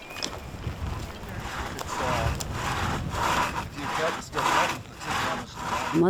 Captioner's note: sawing noises